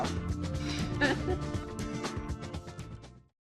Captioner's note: laughs